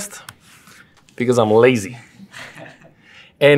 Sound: laugh

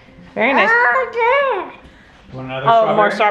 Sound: speaking gibberish

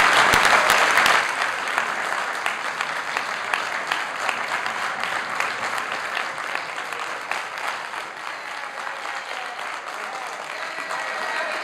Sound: applause

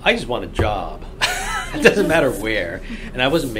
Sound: laughs

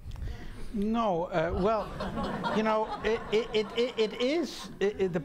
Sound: audience laughing

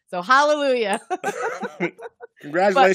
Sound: both laughing

